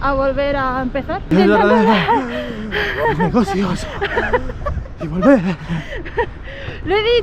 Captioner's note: breathing heavily